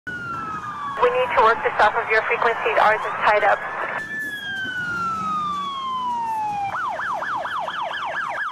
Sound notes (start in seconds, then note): 0.1 police siren wails; 3.8 police siren wails